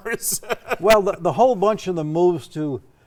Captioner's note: laughing